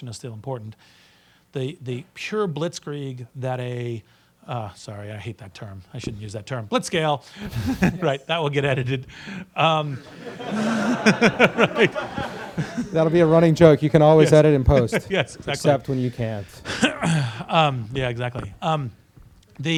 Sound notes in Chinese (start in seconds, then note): 7.4 大笑; 10.0 课堂大笑